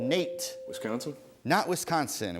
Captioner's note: ding